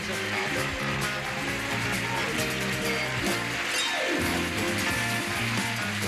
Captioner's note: audience applauding